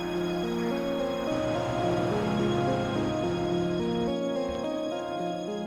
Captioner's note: gentle, dramatic music; humming traffic; gentle, dramatic music